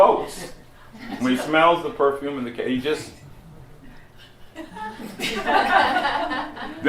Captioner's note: laughter